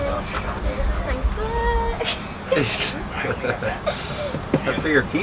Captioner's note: giggles